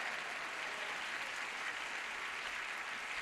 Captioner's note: applause